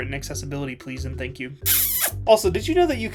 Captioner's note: loud kiss